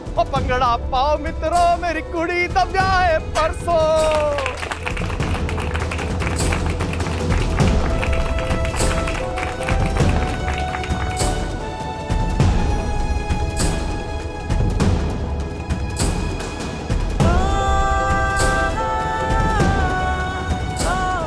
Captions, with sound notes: ‘Let's celebrate, friends, my daughter is getting married!' [clapping] [emotional music playing] [emotional vocalising]